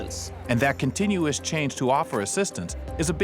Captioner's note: voiceover